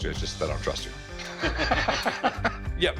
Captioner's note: laughter